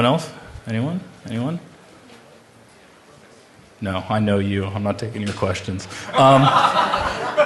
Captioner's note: laughter